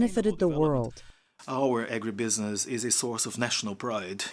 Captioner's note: through translator